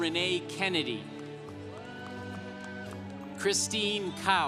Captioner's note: congregation applauding